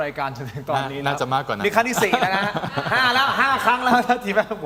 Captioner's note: laughter